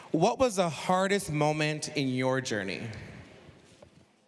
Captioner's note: none